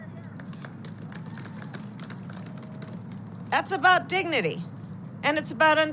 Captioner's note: applause